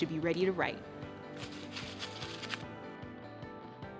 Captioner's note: paper rattling; light music